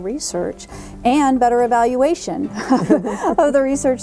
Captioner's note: laughs